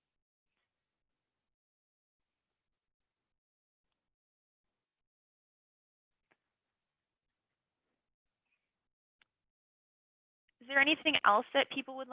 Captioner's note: silence